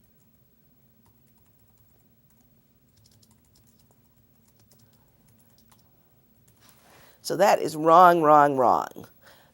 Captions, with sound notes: [typing] So that is wrong, wrong, wrong. The problem here, aside from the missing elements